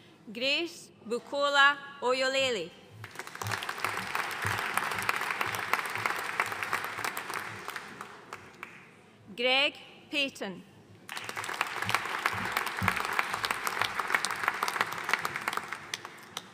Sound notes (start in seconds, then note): 3.0 audience applauding; 11.0 audience applauding